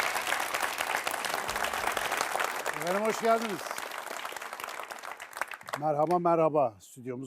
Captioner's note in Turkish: alkış